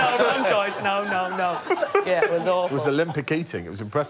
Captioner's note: laughter